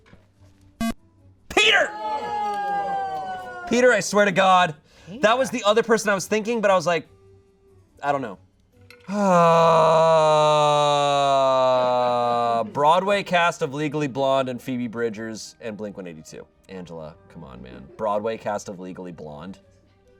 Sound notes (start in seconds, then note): 0.4 electronic beep; 1.5 audience exclaiming; 9.0 sighs